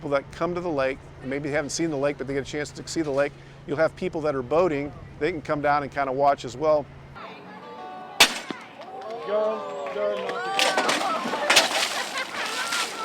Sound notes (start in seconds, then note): 7.4 banging sound; 7.4 splash and laughing